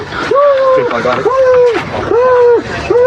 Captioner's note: screaeamiming